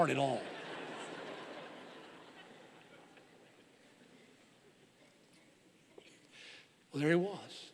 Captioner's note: audience laughing